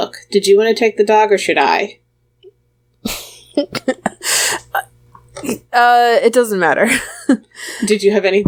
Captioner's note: laughs